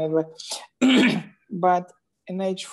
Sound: clears throat

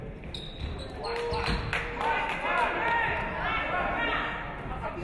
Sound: audience clapping

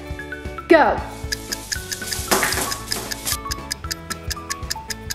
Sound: clock ticking

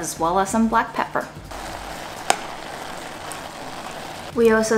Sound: vegetables sizzling

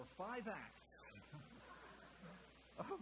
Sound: audience chuckling

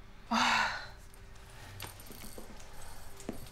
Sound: sighs

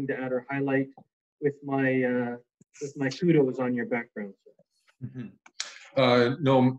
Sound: chuckles

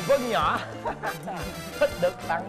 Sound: laughing

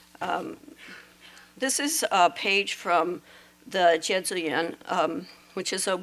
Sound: non-english

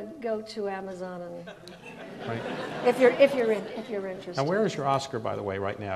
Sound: audience laughs

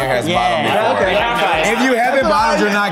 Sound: group agreeing

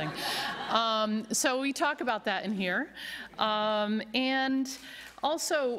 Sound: laughter

